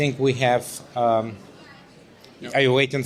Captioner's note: murmurs